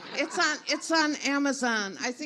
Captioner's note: everyone laughs